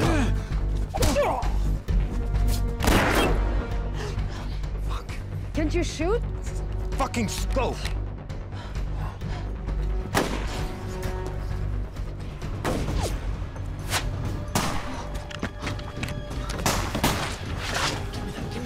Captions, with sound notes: Fuck. Can't you shoot? Fucking scope. [gunshot] [gunshots] [gunshots]